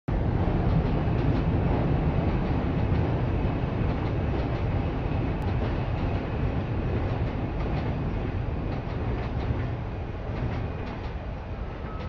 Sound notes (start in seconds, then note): 0.1 train Noises